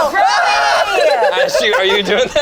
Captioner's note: screams; group laughs